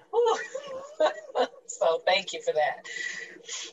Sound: laughs

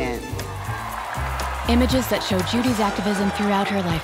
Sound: applause

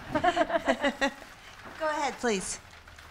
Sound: laughter

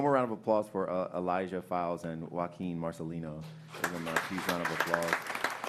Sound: applause

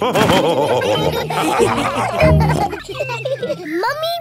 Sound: all laughing

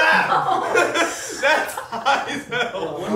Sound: laughing

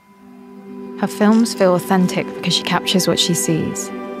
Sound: none

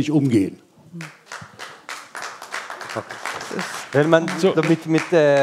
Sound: applause

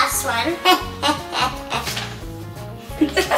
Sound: laughing

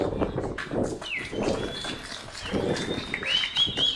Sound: cheering

